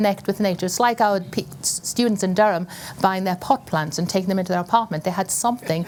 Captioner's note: laughter